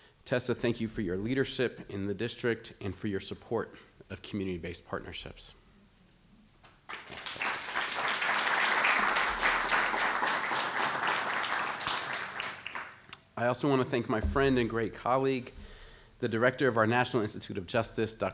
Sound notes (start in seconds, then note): 6.8 applause